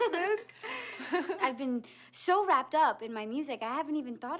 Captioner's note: laughs